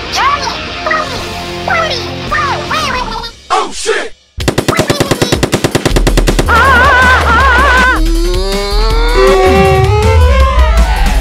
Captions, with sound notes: *Squid language* OH SH1T! *Ink Gun Firing* AAAH AAAH! TTAAKKEE--AA DDAATT!!